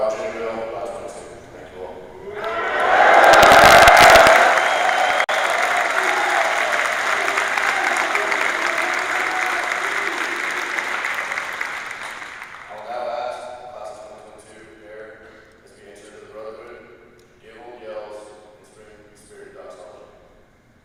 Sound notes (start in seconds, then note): 1.1 applause